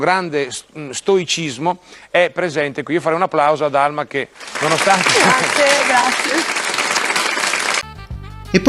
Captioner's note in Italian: applauso